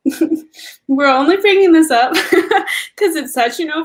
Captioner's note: laugh; laugh